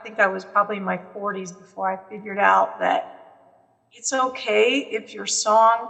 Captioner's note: none